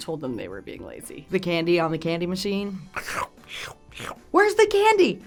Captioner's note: slurps